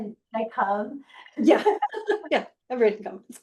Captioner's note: laughing